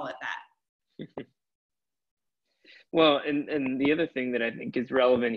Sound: chuckles

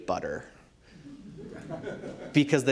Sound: laughter

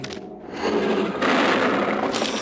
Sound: roar

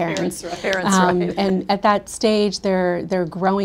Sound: laughs

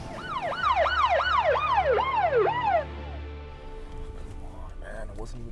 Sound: police sirens blaring

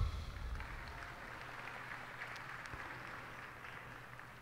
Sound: cheers and applause

